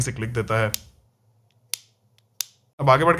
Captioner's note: clicking sounds